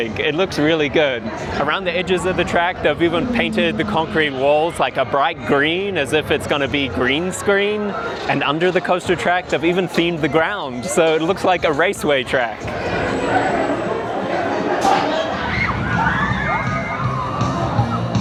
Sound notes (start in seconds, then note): 15.3 screams